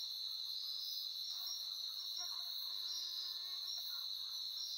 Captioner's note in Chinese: 蚊子的聲音